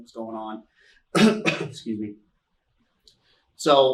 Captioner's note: coughs